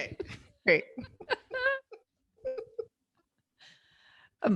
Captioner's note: laughs